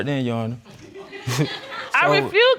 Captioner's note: audience laughing